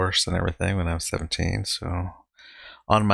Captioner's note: none